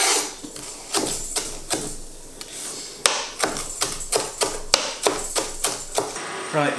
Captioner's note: scrape; chop chop chop chop chop chop chop chop